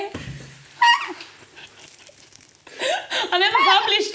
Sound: laughing

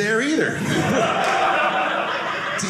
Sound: audience laughing

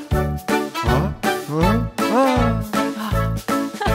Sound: man groaning; sighs

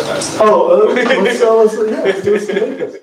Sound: laughter

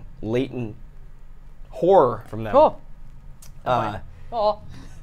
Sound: gasps

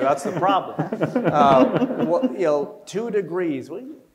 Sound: panel laughs

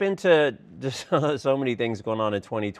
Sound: laughs

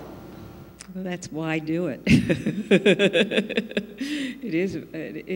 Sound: laughs

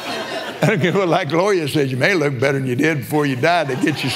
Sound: laughs

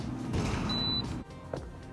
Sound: machine beeps

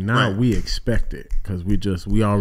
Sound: fingers snapping

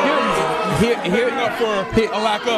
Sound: crowd cheering loudly

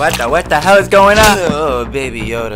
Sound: slap

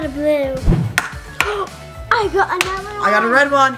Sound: egg cracking

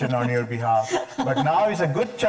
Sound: chuckling

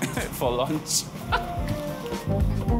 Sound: laughs

